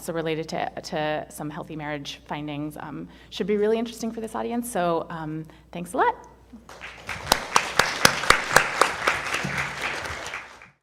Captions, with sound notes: also related to some healthy marriage findings should be really interesting for this audience, so thanks a lot. (audience applauding)